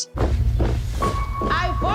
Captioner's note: boots tap rhythmically